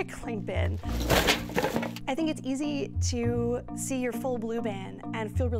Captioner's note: rustling